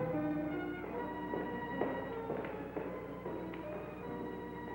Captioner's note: footsteps clacking